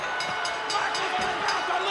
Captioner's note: ring bell dinging